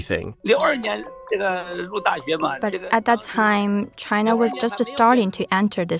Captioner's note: speaking Mandarin